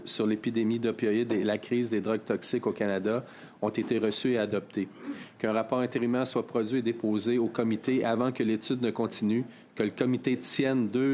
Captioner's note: speaking French